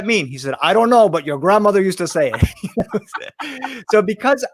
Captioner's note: laughs